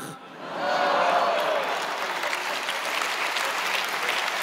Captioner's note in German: Applaus, Jubel